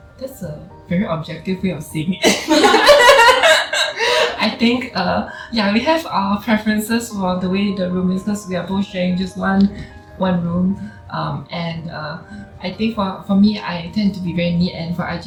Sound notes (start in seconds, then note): 2.2 laughs